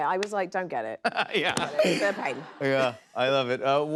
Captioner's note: laughing